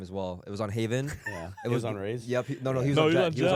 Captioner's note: laughs